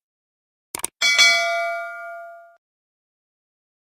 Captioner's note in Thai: เสียงกระดิ่ง